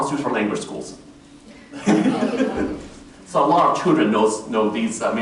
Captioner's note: laughter